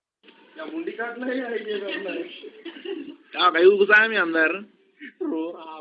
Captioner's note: people speaking in foreign language